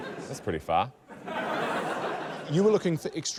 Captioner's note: laughter